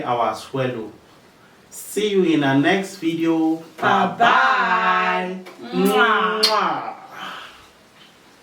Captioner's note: kisses